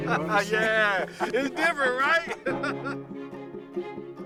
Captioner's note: laughs